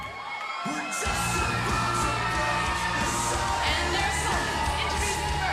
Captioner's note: crowd cheering